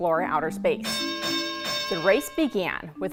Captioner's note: fight bell rings